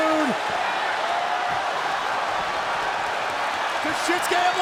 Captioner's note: audience cheers